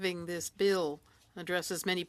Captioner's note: speaking French